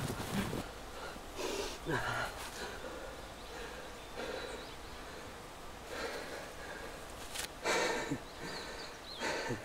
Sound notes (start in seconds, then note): 1.3 sniffs; 3.4 heavy breathing